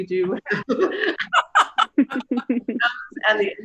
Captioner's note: laugh